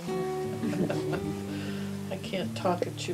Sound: laughs

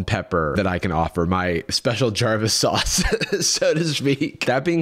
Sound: laughs

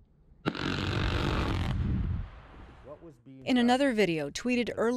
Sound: explosion booming

